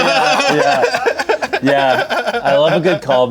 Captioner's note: laughs